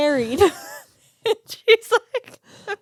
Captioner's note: both laughing